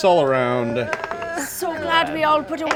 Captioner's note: dice roll